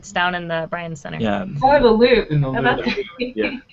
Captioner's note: laughing